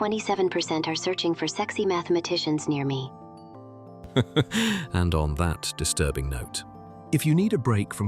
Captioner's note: laughing